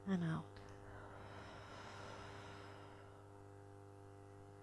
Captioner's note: people exhaling